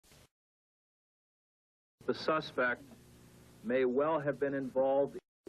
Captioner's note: Static